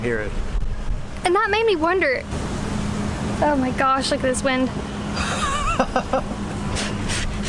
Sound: laughter

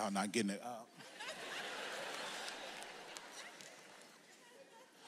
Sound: audience laughs

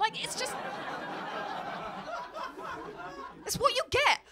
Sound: laughter

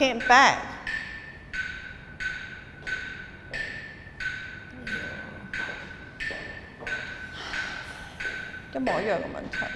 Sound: deep sigh

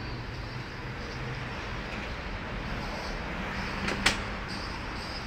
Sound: traffic rumbling

